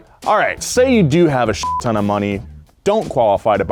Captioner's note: beep